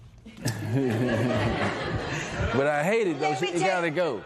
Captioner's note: laughter